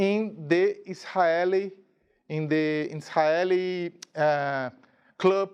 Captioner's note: speaking in a foreign language